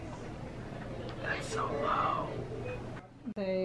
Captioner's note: whispers